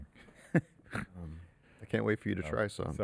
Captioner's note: laughs